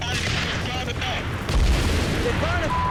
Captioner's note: explosion